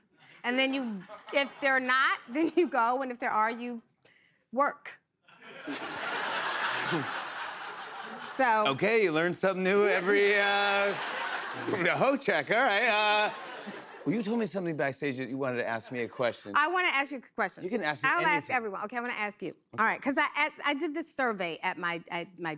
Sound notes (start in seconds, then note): 5.3 laughter